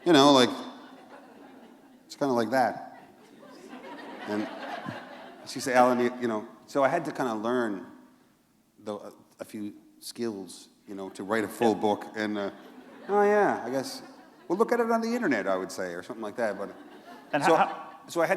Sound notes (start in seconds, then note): 2.9 laughter